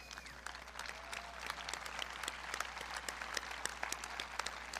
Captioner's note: audience clapping